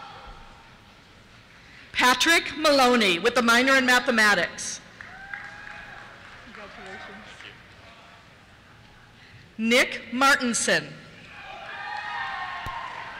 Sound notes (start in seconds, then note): 5.0 cheers; 7.1 voiceover; 9.4 voiceover; 11.2 cheers